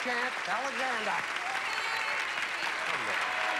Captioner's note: cheering